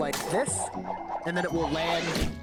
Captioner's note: virtual toast whooshing